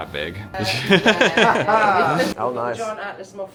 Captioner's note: laughing